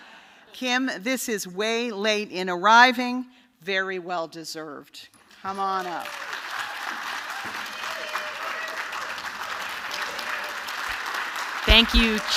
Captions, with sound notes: Kim, this is way late in arriving, very well-deserved. [APPLAUSE]. >> Thank you.